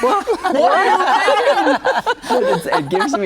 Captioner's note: guests laughing